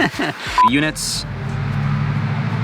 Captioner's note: marker beep